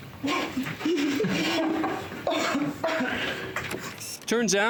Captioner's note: coughing